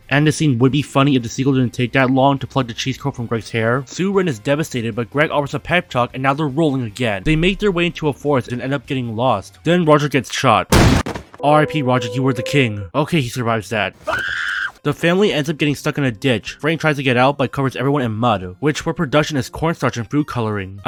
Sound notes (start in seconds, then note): 10.7 gunshot; 14.0 scream